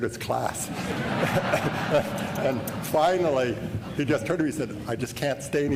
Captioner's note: laughter